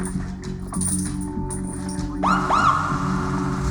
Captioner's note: door alerts blare, sirens wail